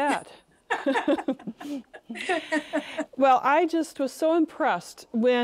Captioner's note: both laugh